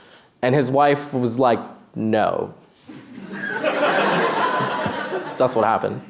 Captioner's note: laughter